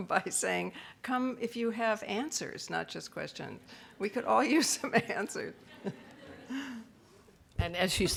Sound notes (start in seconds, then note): 5.0 laughs